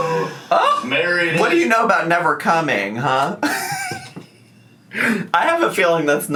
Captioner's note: laughing